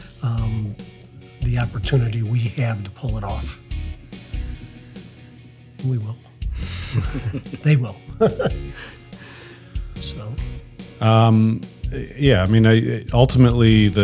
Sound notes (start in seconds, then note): 6.5 laughs